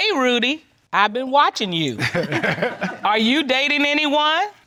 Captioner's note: chuckles